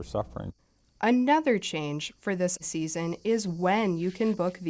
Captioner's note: voice-over